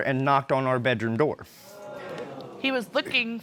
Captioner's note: audience exclaims